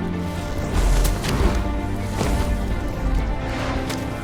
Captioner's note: dramatic orchestral music; mud splashes; vehicles whooshing